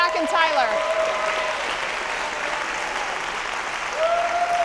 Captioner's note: audience applauding